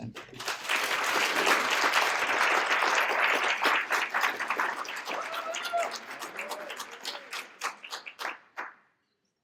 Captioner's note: applause